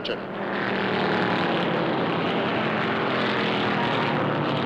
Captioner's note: engines rumbling